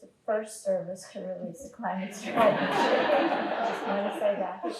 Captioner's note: audience laughing